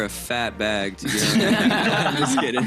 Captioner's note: laughter